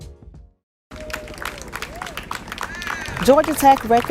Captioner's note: clapping